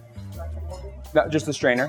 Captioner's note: voice muffling